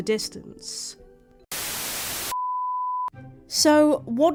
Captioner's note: static